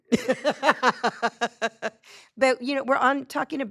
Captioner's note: laughing